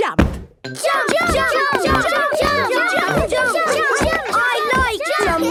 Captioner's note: all shouting "Jump! Jump!"